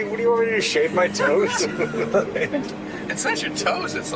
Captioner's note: laughs